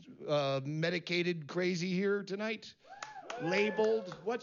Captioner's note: aplausos dispersos